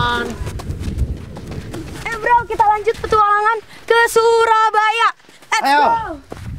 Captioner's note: random chattering